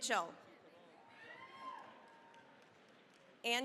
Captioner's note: cheering, applause